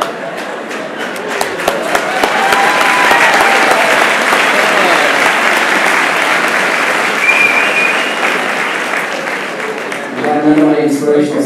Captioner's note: applause